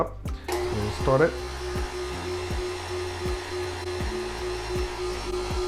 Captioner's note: blender whizzing